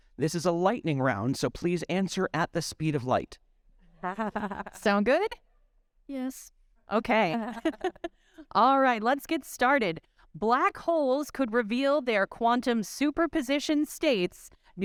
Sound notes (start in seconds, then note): 4.0 chuckling; 7.4 chuckling